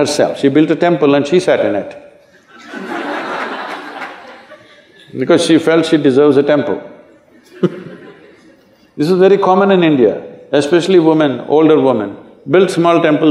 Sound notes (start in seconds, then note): 7.4 Sadhguru Laughs